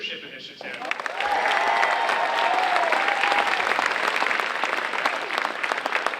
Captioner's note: audience cheering and applauding